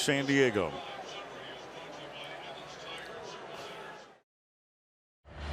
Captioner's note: pa announcement